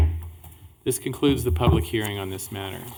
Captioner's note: gavel